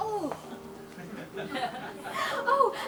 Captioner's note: audience laughs